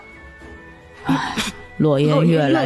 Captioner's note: sigh